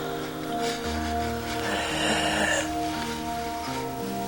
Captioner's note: labored breathing